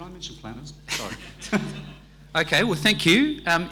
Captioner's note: laughing